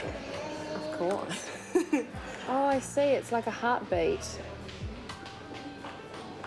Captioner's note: laughter